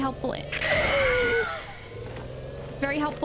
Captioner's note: tires screeching